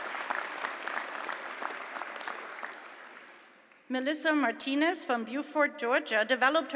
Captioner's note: applause